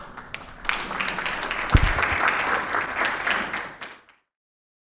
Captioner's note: audience clapping